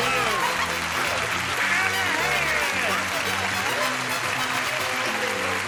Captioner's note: applause